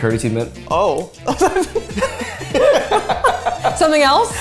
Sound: laughing

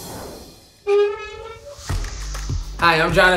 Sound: grill lid squeaks

